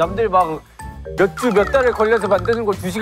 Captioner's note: whining